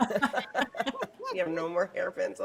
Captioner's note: people laughing